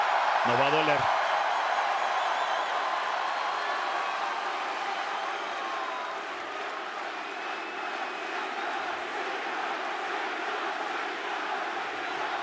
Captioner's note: applause